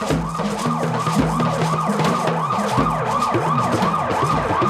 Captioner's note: siren blaring